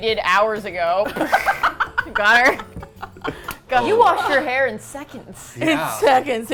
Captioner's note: laughs